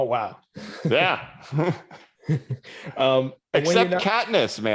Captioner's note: laughs